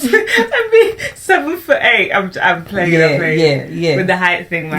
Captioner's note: laughs